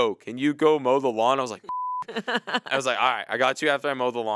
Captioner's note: beep